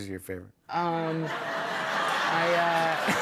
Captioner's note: laughter; laughs